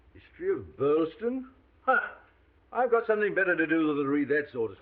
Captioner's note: scoffs